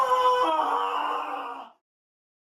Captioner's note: screaming